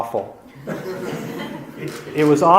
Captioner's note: audience laughs